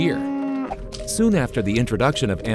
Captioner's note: cow mooing